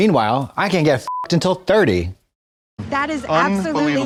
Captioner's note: beep